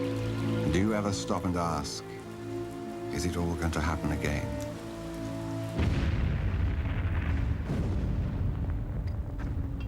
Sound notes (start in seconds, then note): 5.8 explosion